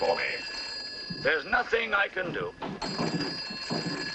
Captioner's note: phone ringing